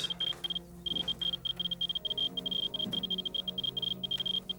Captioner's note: geiger counter beeps